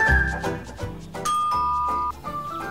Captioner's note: doorbell